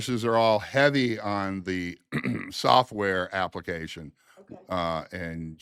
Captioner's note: clears throat